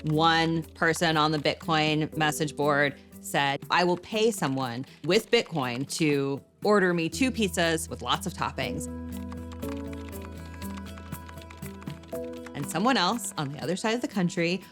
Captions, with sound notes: so one person on the Bitcoin message board said, "I will pay someone to-- with Bitcoin-- to order me two pizzas with lots of toppings." (keyboard keys lightly clacking) And someone else, on the other side of the country,